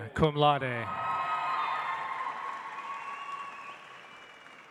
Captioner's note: audience applauds